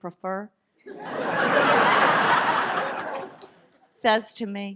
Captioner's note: audience laughs